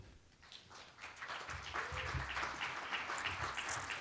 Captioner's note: applause